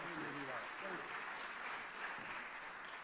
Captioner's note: applause